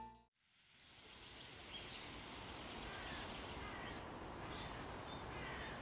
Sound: ambient nature sounds/fountain in background

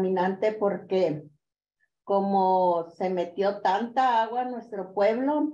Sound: continues speaking in Spanish

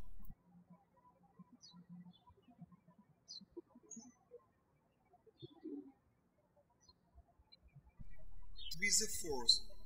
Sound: birds chirping

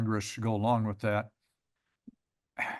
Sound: pause

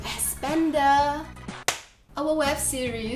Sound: smack

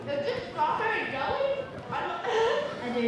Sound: laughter

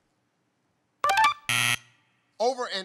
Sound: buzzer

